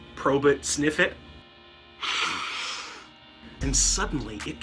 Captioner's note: sniff